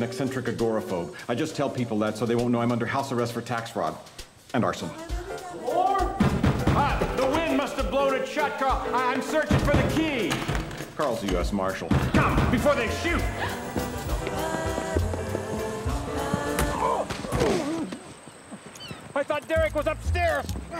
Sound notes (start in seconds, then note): 6.2 banging on door; 13.2 gasps; 16.7 grunts